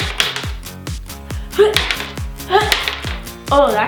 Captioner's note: exaggerated grunts